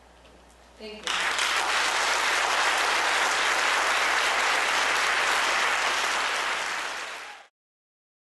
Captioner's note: applause